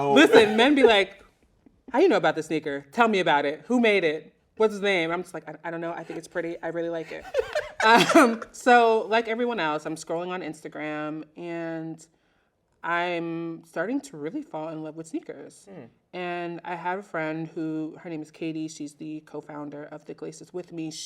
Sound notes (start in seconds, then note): 7.1 laughs loudly